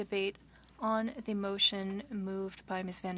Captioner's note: speaking French